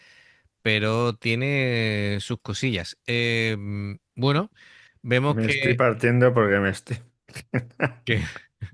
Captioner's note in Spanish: risas